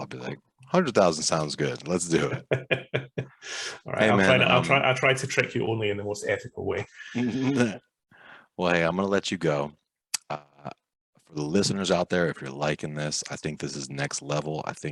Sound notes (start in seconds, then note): 2.2 laughing